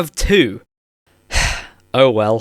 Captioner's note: sigh